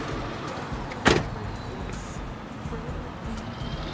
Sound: door slams

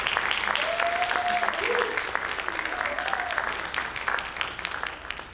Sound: audience applauding; audience members cheering

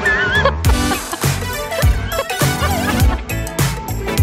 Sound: laughs

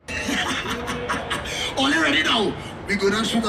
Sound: laughs

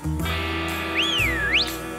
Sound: whistles

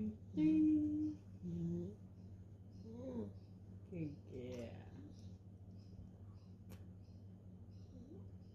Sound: sing song voice

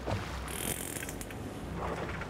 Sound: whale clicks

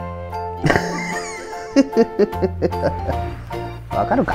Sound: laughs

